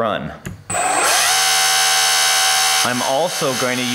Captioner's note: mechanical whirring